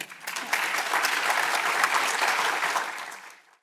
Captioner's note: audience clapping